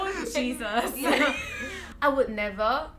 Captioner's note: laughs